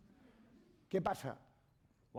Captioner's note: speaking spanish